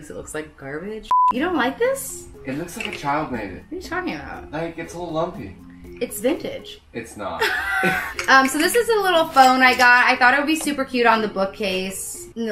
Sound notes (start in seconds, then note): 1.1 beep; 7.4 laughs